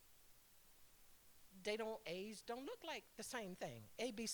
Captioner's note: none